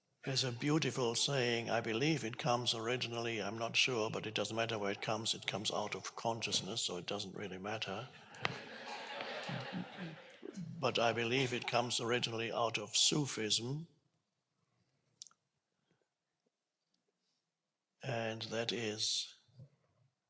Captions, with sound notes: There's a beautiful saying. I believe it comes originally, I'm not sure, but it doesn't matter where it comes. It comes out of consciousness, so it doesn't really matter. (audience laughing) but I believe it comes originally out of sophism. And that is,